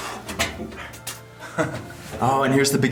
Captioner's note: chuckles